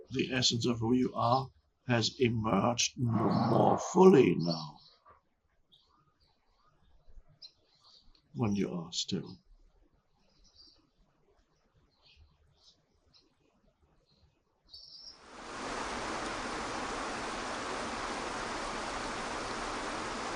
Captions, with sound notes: the essence of who you are has emerged more fully now when you are still. (birds chirping) (water whooshing)